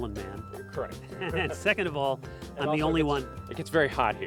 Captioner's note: laughing